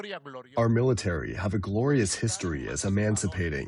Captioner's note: through translator